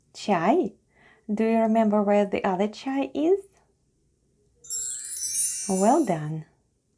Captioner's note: chime sound